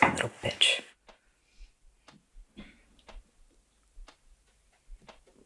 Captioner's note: clock ticking